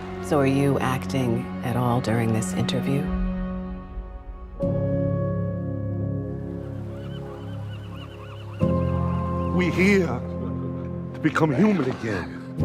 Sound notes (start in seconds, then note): 3.7 birds chirping; 3.7 gentle music